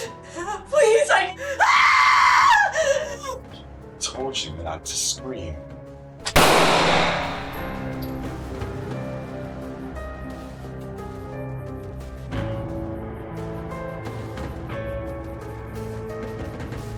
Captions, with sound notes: Please, I. (screams) - I told you not to scream. (gun firing) (ominous instrumental music)